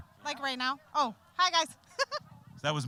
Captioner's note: laughing